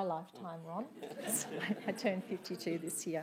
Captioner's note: laughing